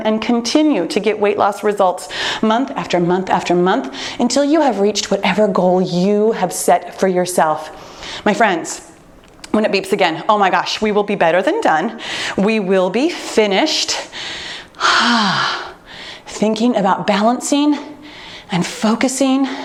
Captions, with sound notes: and continue to get weight loss results month after month after month, until you have reached whatever goal you have set for yourself. My friends, when it beeps again, oh my gosh, we will be better than done. We will be finished. (exhales) Thinking about balancing and focusing